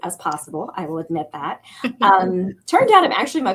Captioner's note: laughter